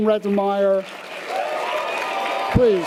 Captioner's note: audience applause and cheers